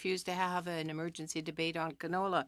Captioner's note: speaking French